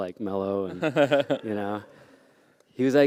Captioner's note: laughter